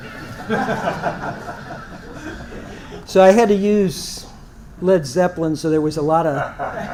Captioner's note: laugh